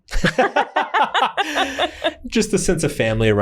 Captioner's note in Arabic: كلاهما يضحك